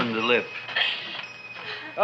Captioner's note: shop bell chimes